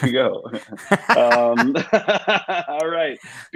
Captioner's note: both laugh